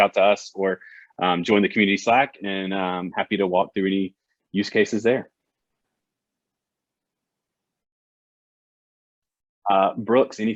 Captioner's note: silence 00:22:32